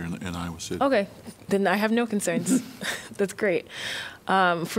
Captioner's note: laughter